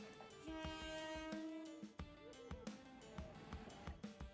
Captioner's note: train horn honking